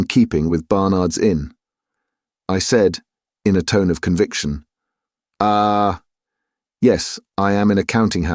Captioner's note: in a tone of conviction